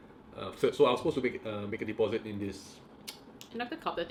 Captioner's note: clicks tongue